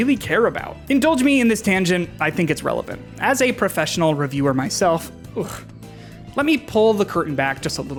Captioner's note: ugh